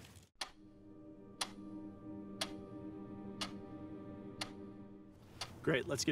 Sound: clock ticking

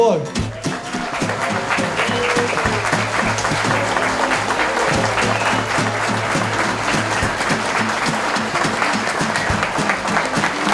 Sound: applause

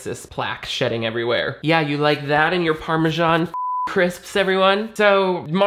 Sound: beep

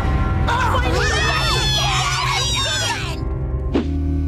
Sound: cheering

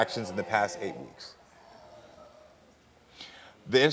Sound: audience oohing

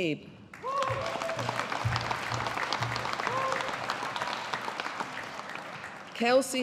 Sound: audience applauding

